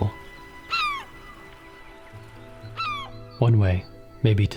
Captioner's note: bird caws